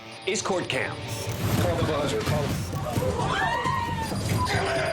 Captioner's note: overlapping shouting; shouting